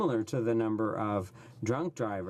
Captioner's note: speaking French